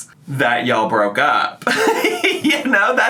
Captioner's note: laughs